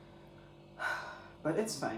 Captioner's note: defeated sigh